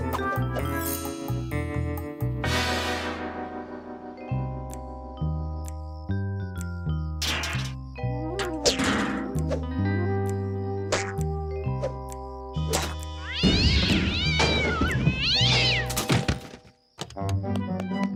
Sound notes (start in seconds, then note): 13.2 cat yowls